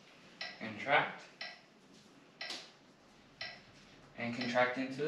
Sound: metronome ticking

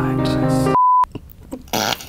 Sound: beeps; laughing

